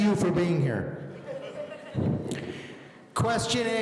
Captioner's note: audience laughing